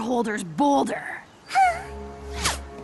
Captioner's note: sigh